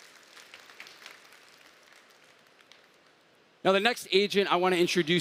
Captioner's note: applause